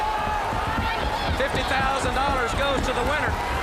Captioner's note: crowd chatter